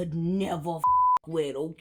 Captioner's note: beep